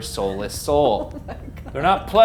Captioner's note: laughs